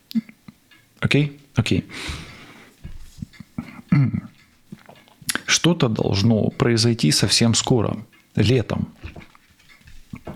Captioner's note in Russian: откашливается